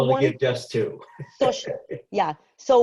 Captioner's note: chuckles